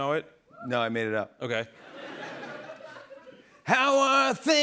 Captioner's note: laughter